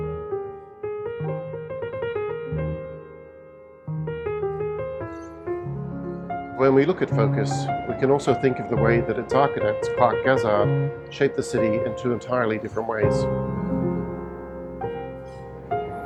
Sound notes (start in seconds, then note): 5.0 bird chirping; 13.4 soft music